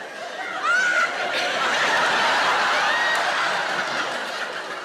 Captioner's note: audience laughing